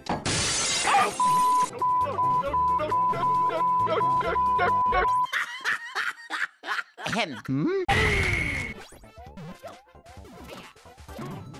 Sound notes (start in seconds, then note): 5.3 Mario Laughs; 7.4 ahem